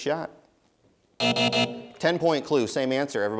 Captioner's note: buzzer